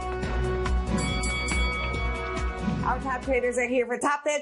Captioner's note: bellringing